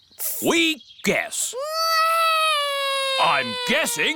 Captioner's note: alexander wails